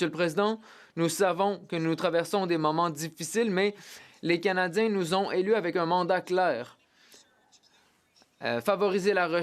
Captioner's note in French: voix de l'interprète